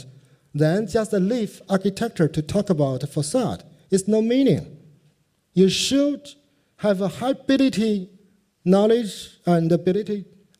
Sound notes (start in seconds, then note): none